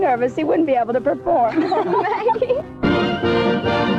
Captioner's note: both laughing; lively band music